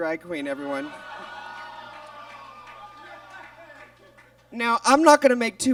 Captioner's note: audience groans